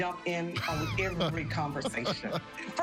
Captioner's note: laughs